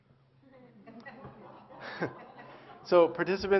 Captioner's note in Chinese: Laughter; 笑聲